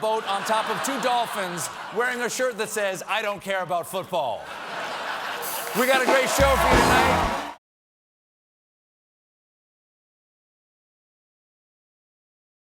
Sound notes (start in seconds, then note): 7.1 laughter